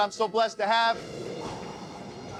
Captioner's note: exhales